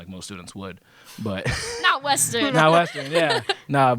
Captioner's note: laughter